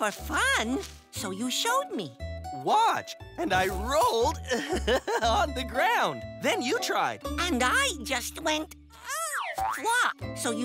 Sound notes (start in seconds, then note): 4.5 laughs